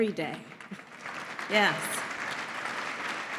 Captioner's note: applause